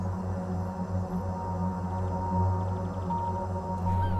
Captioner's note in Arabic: يئن